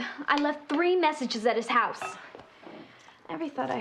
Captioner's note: none